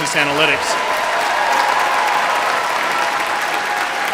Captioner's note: applause